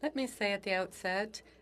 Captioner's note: speaking French